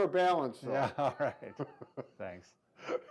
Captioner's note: both chuckling